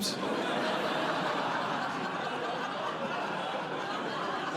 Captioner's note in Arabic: ضحك